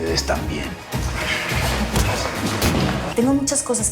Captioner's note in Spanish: Sonidos de la refriega